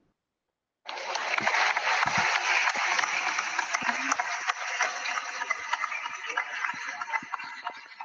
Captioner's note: applause